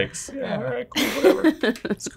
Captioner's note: laughing